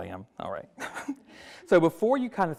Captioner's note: chuckles